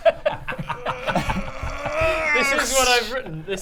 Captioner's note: urggggggggggggh